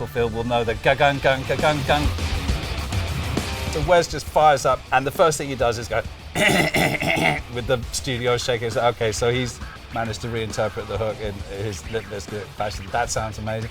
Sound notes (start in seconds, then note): 0.8 imitating rock music; 2.2 rock music; 5.9 imitating rock music